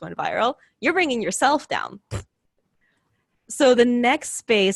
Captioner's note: blows raspberry